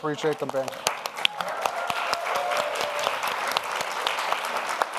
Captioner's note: audience applauds